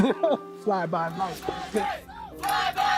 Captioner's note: laughs off screen